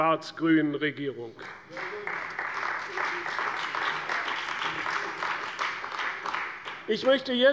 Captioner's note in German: Beifall bei der CDU und dem BÜNDNIS 90/DIE GRÜNEN